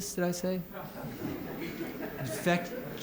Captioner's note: laughter